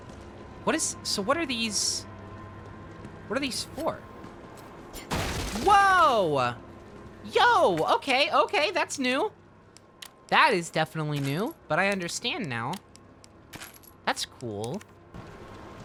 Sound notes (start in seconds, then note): none